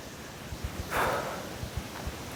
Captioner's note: takes deep breath